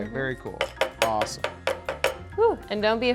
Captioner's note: piston hitting against muddler